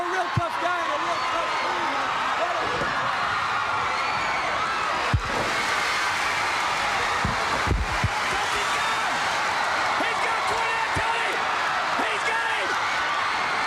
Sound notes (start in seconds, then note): 2.3 crowd cheering; 3.2 crowd chatter